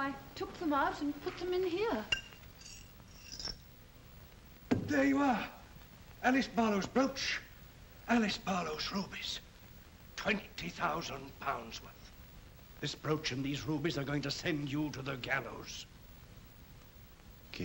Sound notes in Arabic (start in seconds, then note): 2.1 رنين الحجارة